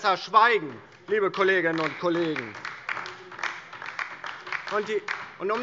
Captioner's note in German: Beifall DIE LINKE